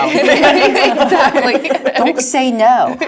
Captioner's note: laugh